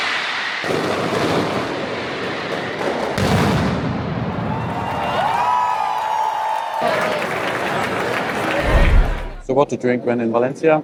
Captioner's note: firework explodes